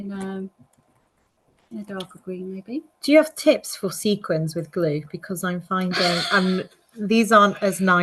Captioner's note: laughs